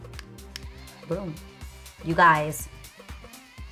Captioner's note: motor hums; button clicks